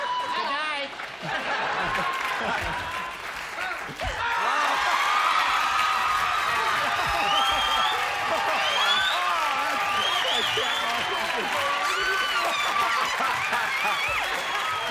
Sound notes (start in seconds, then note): 1.2 laughter; 4.1 cheers; 14.5 cheers